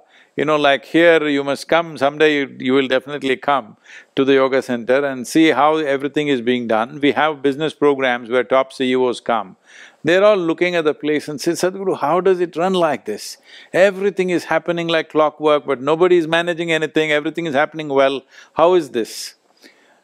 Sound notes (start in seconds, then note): none